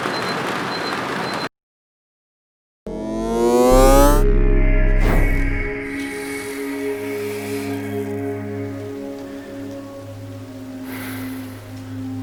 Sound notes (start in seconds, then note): 0.1 beeping; 2.9 winding up noise; 5.4 calm music